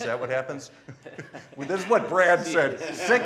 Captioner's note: laughing